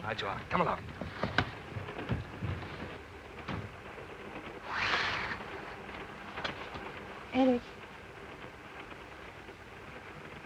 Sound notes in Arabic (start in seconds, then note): 1.4 ينزلق الباب مفتوحا ومغلقا; 4.6 يغلق الستار